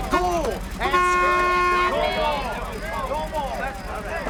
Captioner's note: men clamoring